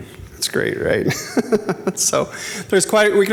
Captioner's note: laughs